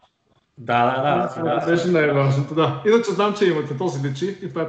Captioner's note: both laugh